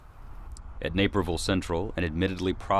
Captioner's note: voiceover